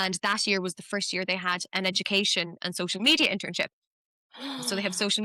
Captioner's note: gasps